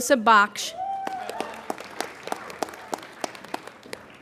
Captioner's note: applauding